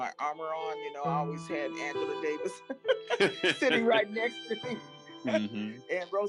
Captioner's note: laughs